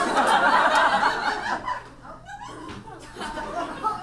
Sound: audience laughs

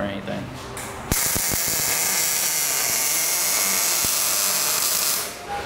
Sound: welder crackling

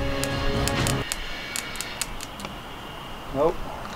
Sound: wires sparking

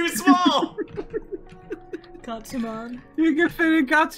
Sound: laughs

